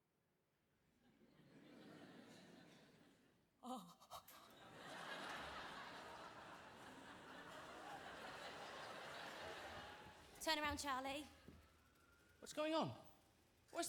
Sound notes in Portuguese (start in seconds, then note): 1.2 audience laughing; 3.8 Lauren groans comically